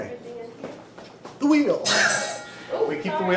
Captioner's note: laughs